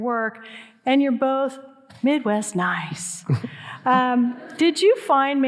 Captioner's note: audience laughing